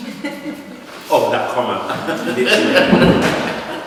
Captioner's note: laughter